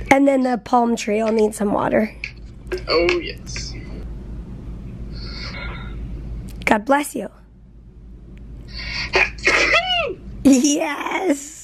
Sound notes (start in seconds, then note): 8.8 sneezes